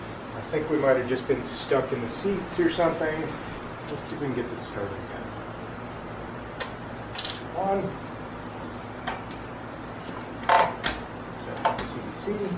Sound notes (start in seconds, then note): 6.5 click; 10.3 ratchet noise